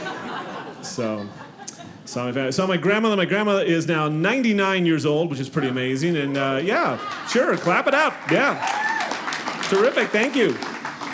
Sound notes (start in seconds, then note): 0.0 audience laughing; 7.0 audience clapping